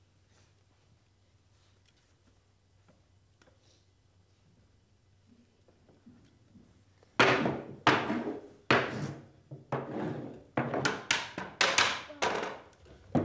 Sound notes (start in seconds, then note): 7.2 stick thumping